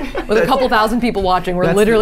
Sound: laughs

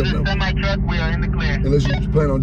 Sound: man On radio

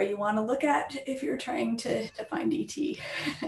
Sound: laughs

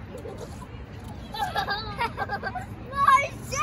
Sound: whhaaaaa

